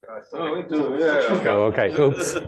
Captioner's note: laughter